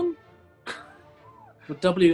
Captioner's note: sniggering